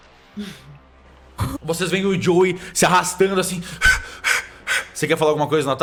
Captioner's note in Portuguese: Respiração ofegante